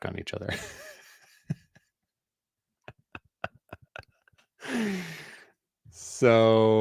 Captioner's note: laughter